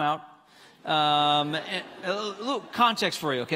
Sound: congregants laughing

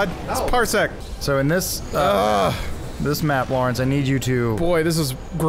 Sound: groans

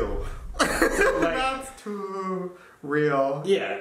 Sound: laughing

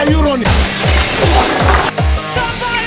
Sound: vehicular accident

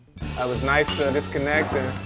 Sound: glass clinks

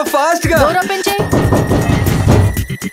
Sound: door banging sound

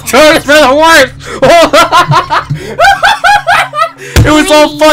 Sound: laughing

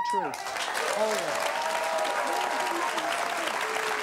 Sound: applause

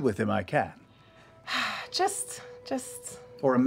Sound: sighs

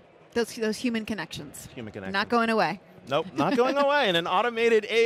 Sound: laughs

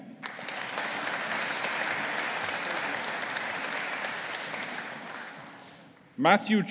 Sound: audience applauding

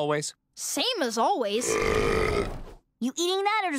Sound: belching

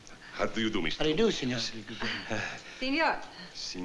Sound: italian

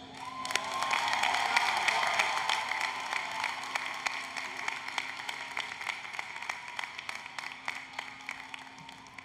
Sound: applause, Cheering

